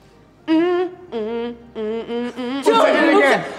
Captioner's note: humming soulful tune